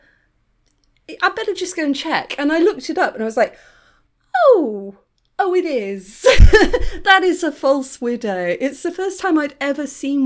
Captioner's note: laughing